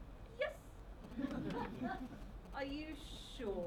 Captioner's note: laughter